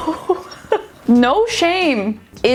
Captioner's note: laughing